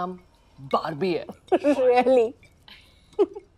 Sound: Agni chuckles

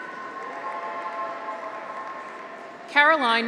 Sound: audience applauds; graduates cheer

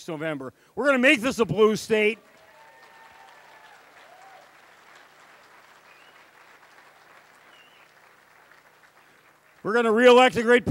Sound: cheering, applause

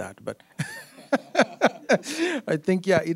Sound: all laughing

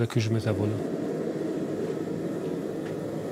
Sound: flame hisses

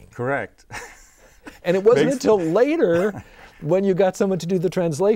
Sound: laughing

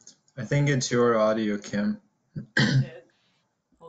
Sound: deep Voice

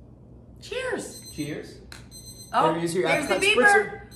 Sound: timer beeps

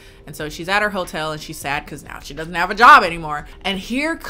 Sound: none

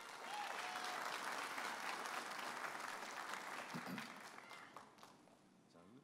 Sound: audience applauding and cheering

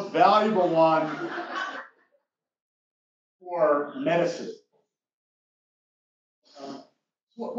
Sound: laugh

